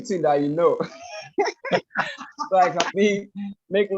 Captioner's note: laugh